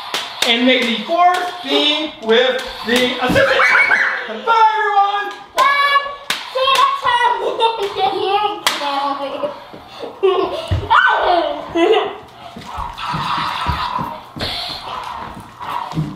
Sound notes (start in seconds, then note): 3.3 girl laughs; 7.0 laughs; 10.9 screams; 12.1 laughs